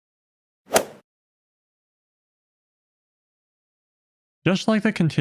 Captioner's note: golf ball hit sound effect